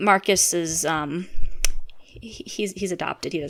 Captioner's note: click